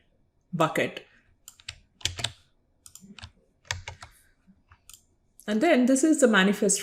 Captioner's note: keyboard keys clicking